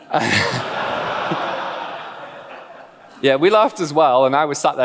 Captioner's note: laughs